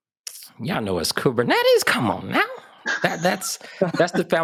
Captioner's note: laugh